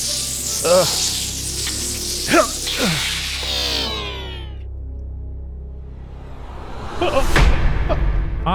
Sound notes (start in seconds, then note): 2.2 grunts